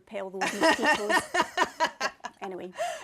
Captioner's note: laughs